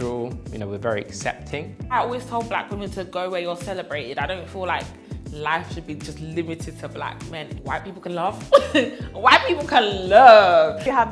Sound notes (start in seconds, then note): 8.5 laughs